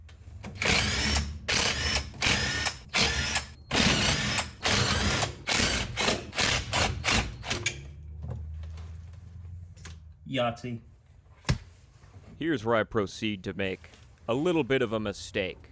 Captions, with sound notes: (drilling) Yahtzee. Here's where I proceed to make a little bit of a mistake.